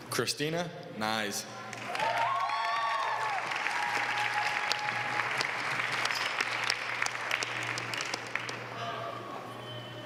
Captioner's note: applause